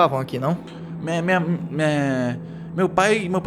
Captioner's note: stutters